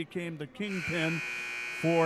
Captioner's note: buzzer sounding